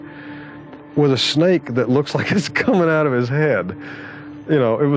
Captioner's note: laughter